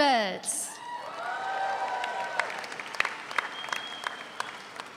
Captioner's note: all applaud